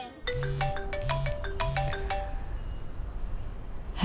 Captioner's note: Phone ringing